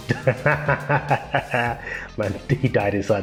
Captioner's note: laughs